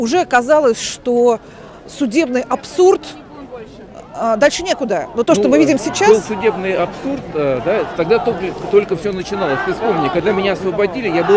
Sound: chanting

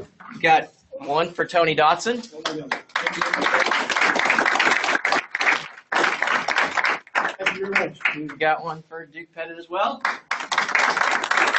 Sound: applause

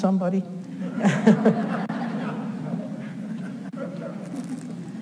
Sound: audience laughs

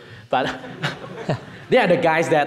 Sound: audience chuckling

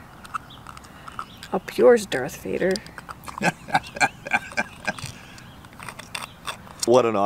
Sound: chuckles

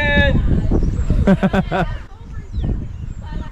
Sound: laughing

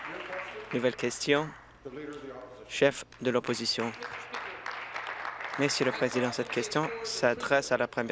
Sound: applause

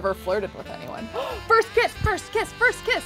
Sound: gasps

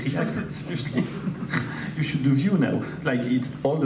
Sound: laughs

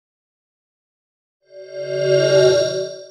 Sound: swoosh

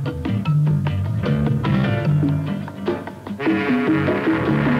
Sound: ship horn blows

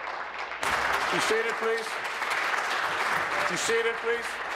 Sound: applause

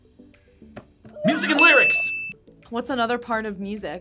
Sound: bell rings

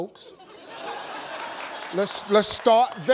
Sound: laughter

